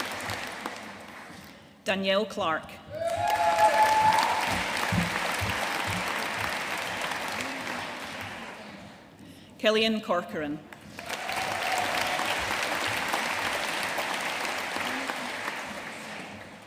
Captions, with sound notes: Danielle Clark. (AUDIENCE CHEERING AND APPLAUDING) Cillian Corcoran. (AUDIENCE APPLAUDING)